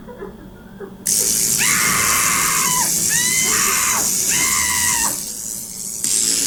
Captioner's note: Brooke screams in pain